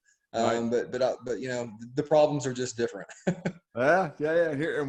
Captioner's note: chuckles